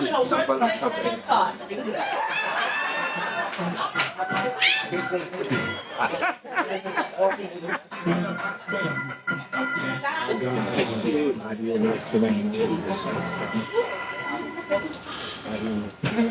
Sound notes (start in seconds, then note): 3.2 audience laughing; 5.8 audience chattering